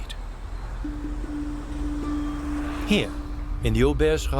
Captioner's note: sound of cars passing